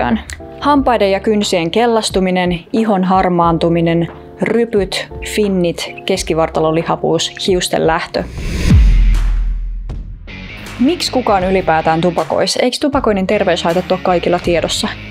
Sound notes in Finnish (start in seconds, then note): 8.2 siirtymä-äänitehoste